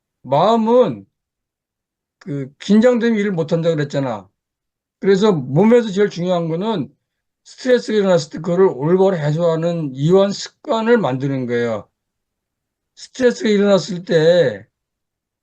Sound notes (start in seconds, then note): 7.0 breathing